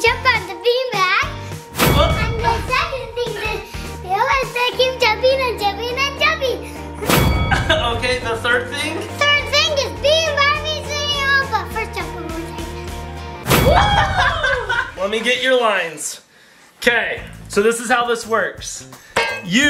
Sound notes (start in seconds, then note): 3.6 gasps; 5.2 indistinct chanting; 7.5 laughs loudly; 13.6 cheering